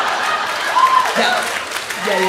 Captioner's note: audience laughing; audience cheering